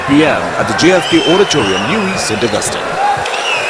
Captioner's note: wild applause and cheering for 22 seconds